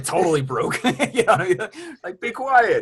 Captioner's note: laughs